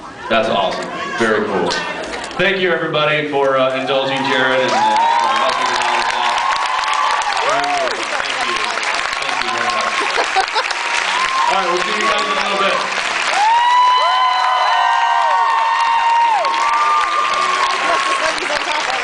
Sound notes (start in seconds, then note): 5.9 cheers, applauds; 8.5 applauds; 12.6 applauds; 12.8 cheers, applauds; 17.5 applauds